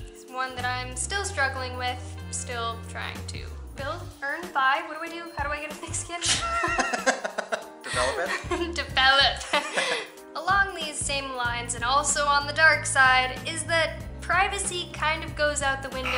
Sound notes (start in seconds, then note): 6.2 laughter